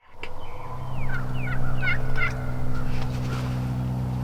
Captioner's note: birds squawking